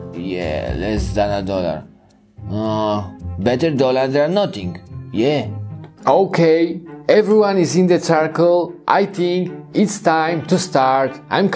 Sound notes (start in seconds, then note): none